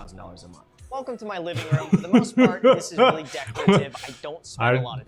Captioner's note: laughs